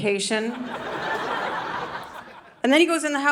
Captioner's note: audience laughing